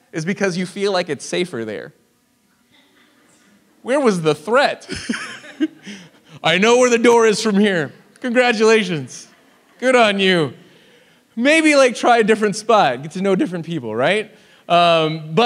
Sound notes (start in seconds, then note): 2.7 audience laughs; 4.9 laughs